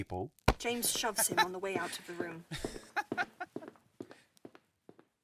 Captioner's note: Sirius’ laughing fades